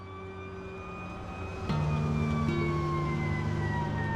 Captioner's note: sirens wailing; gentle music